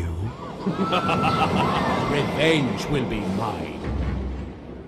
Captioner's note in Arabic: الراوي يضحك